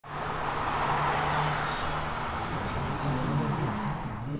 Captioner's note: traffic hum; crowd gathers